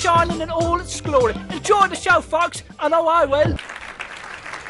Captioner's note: applause, msic fades